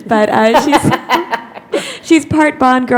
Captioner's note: laughter